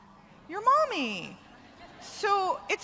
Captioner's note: laughter